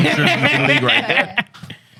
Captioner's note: laughing